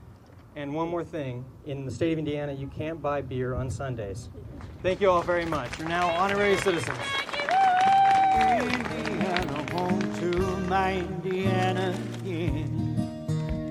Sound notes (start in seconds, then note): 7.4 everyone cheers